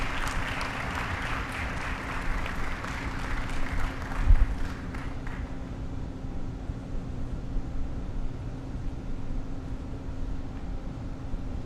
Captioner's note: applause